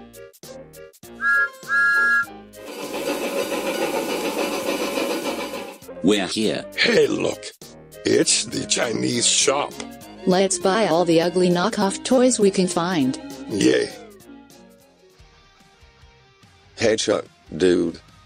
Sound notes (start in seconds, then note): 1.1 thomas whistle; 2.6 chuffing